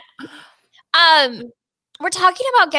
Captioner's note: laughing